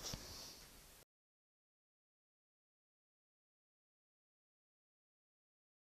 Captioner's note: silent